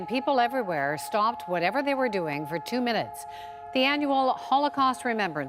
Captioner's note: sirens